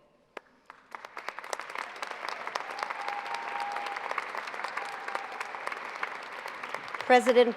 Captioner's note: applause